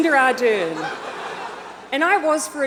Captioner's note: audience laughs